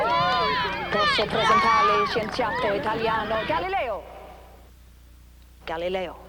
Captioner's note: speaks foreign language